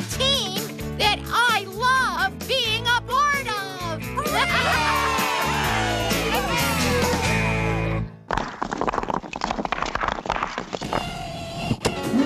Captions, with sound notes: A TEAM THAT I LOVE BEING A PART OF! ( All Cheering )